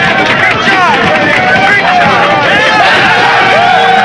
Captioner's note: cheering continues